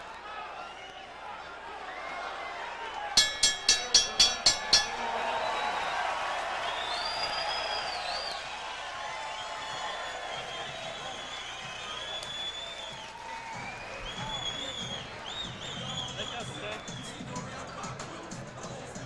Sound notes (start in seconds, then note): 3.1 bell rings 7 times to end round 2; 5.3 loud cheering, whistling from audience